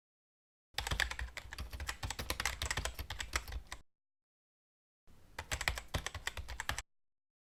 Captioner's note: keyboard types